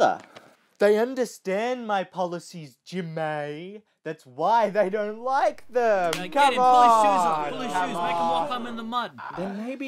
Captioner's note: audience Boos